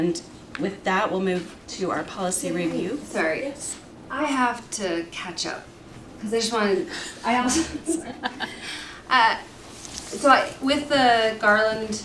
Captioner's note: laughter